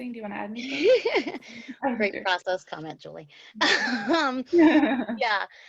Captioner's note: laughs